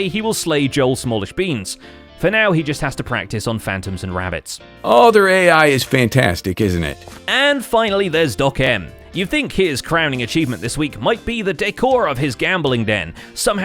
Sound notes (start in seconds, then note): none